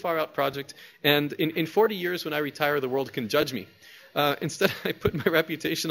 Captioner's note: laughs